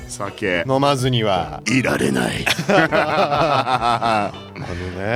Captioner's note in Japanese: 笑い